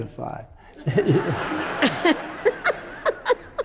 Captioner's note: audience laughs; laughs